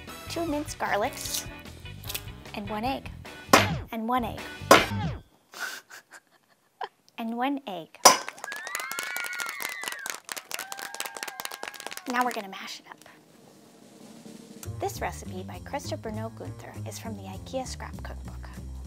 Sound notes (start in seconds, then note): 4.7 bang; 5.6 laughing; 8.3 kids cheering; 8.4 bang